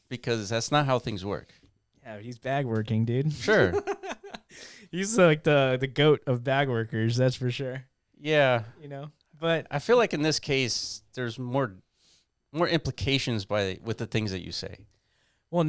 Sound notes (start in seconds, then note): 3.5 laughs